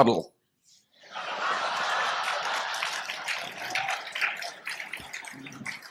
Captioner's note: laughter and applause